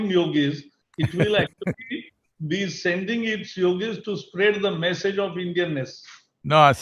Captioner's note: Sadhguru laughs